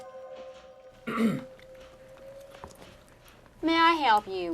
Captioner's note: Paul clears throat